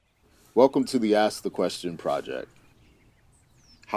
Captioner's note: birds chirping